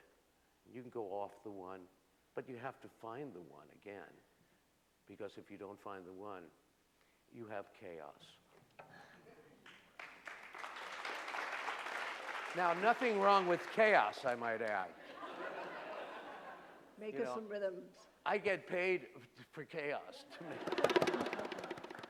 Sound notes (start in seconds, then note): 9.6 applause